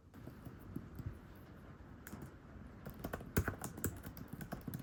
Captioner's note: rain and typing sounds